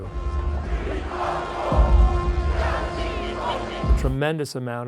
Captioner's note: people chanting in a foreign language